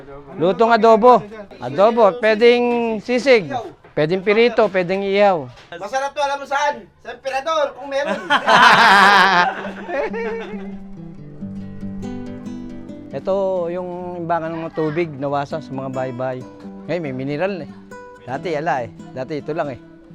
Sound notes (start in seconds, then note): 8.0 laughs